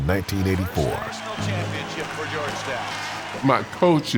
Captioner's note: cheers